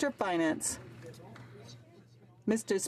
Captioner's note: some Applause